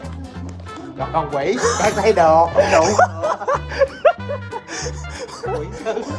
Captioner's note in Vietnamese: tiếng cười